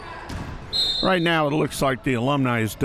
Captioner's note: whistle chirping